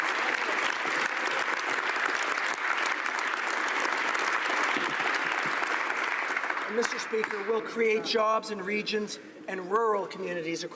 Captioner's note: applause